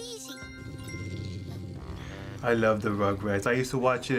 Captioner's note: pinging; dog growling